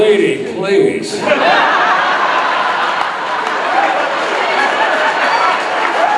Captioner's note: audience laughing and cheering